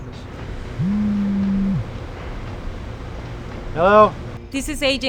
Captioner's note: cellphone buzzing